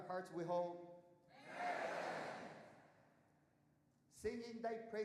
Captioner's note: audience shouting